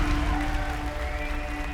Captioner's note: applause, cheering and whistling